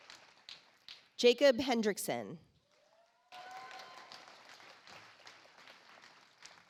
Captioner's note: audience applauds